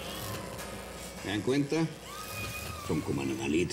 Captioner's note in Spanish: más chasquidos eléctricos; gritos de mujer